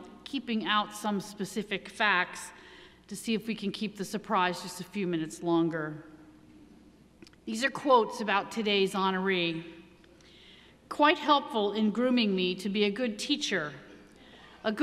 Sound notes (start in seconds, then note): none